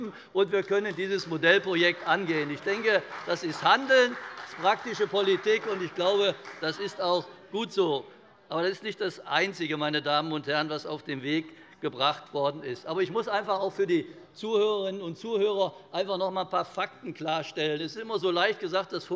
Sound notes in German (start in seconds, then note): 0.8 Beifall bei der CDU